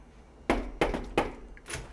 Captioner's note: knock, knock